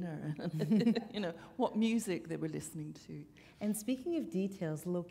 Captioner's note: chuckle